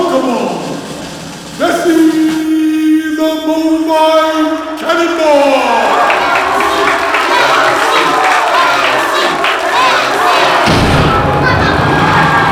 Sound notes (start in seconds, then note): 5.9 applause; 8.6 chanting; 10.6 explosion